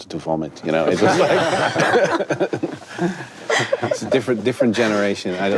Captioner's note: panelists laugh